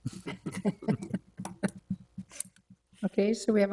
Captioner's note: laughter